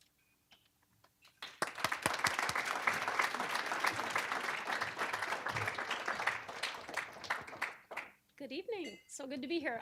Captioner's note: applause